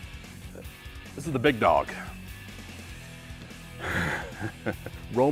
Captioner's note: laugh